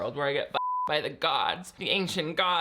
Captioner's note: beep